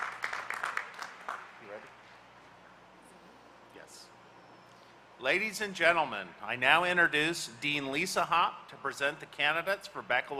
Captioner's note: applause